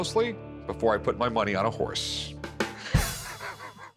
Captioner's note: chuckles